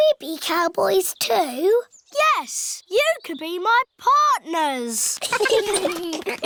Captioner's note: all giggling